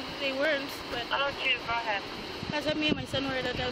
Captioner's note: radio chatter